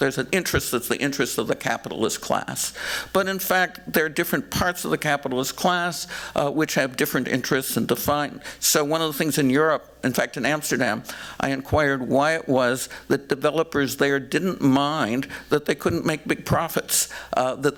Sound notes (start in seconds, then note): none